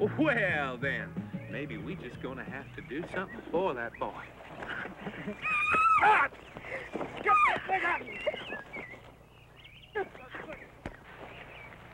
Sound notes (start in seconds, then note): 5.4 woman screams